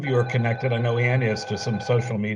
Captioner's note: phone rings